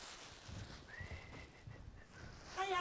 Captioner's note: whistles